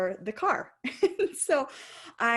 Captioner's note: laughing